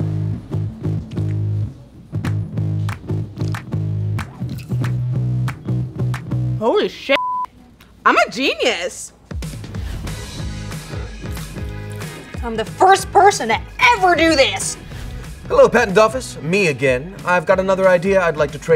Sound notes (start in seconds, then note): 7.1 beep